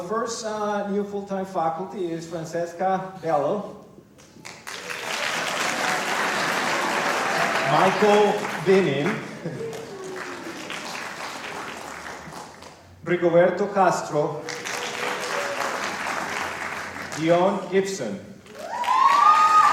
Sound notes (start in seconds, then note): 5.7 applause; 11.4 applause; 14.4 applause